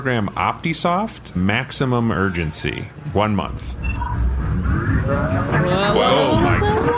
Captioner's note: Reflactorium hums; accelerated speaking